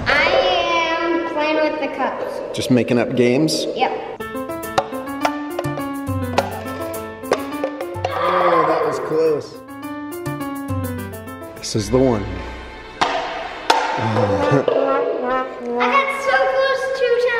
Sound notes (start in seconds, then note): 4.6 bright music; 8.0 exclaims; 14.7 sad trombone